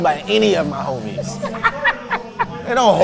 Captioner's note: laughing